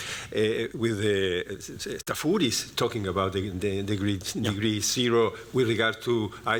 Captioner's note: non-english speech